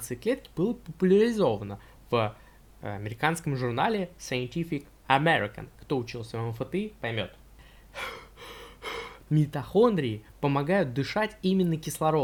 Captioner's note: deep breath